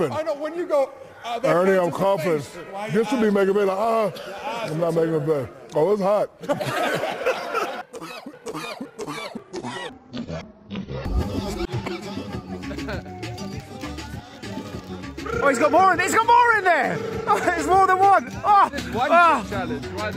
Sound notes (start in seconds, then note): 6.4 studio laughs hysterically; 7.6 cough